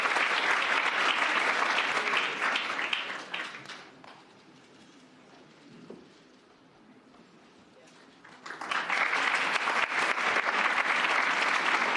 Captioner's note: cheers and applause